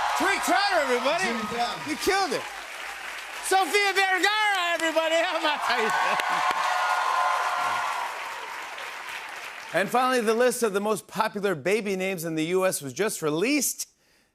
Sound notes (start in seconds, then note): 5.5 laughs; 7.0 cheers and applause